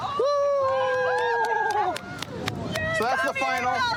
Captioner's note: cheering